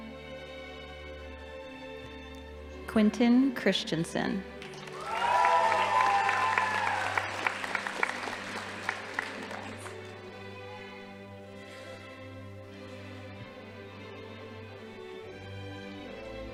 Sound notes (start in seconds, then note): 4.6 audience applauding; 4.6 crowd cheering